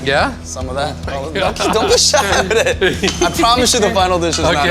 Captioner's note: laughs